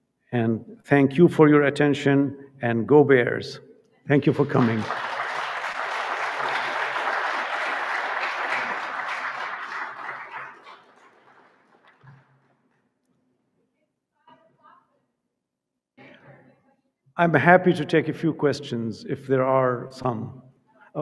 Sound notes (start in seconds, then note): 4.2 audience applauding